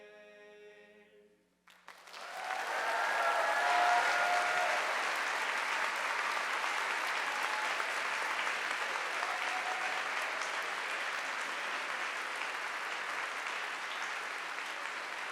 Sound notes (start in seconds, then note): 2.1 audience applauding